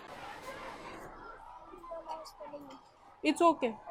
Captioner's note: kids mumbling in background